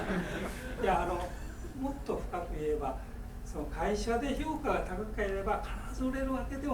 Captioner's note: students laughing; speaking in foreign language